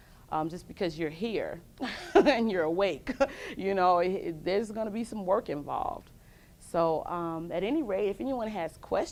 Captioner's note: laughs